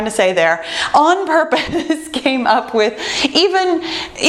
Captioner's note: laughs